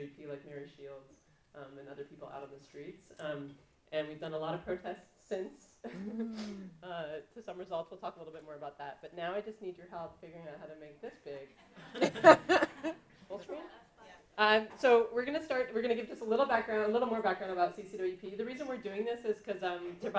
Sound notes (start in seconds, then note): 5.9 laughs; 12.0 audience laughing